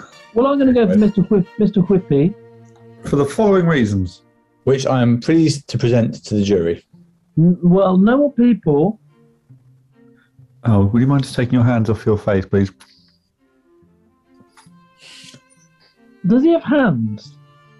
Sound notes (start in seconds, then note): 0.0 laughing; 12.8 slurp